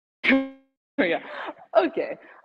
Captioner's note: microphone buzzes